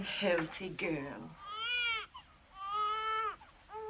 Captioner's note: baby cries